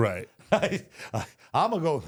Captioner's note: Michael laughs